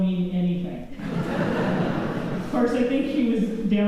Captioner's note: laughter